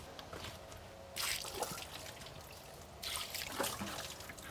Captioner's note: water splashing